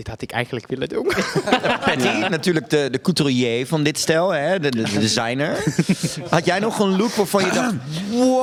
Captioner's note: coughs very subtly